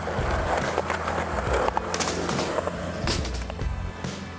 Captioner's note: skateboard scraping